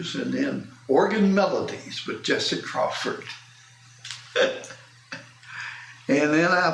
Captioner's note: laughs